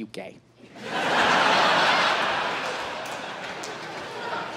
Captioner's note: crowd laughs